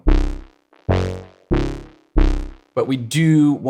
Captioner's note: electronic tone sounding